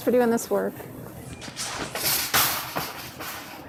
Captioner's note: shopping carts crashing